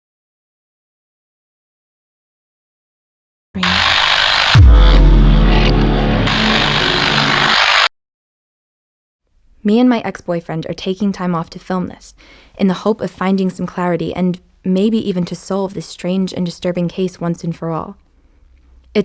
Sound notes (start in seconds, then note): 3.6 TV signal buzzing; 3.6 tense dramatic music; 6.8 TV signal buzzing